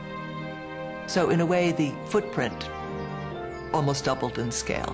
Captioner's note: voiceover